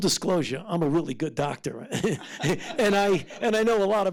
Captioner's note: laughs